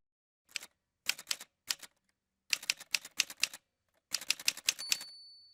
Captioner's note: typewriter sounds